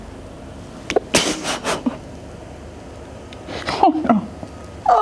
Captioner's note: laughs